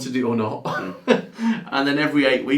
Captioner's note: laughing